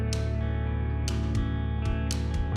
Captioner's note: none